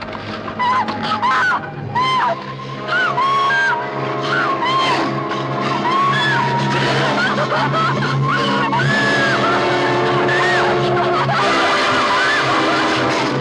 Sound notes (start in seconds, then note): 0.0 growls lowly; 0.0 ominous music; 0.3 screaming and gasping loudly; 5.1 suspenseful music; 8.3 crying and gasping loudly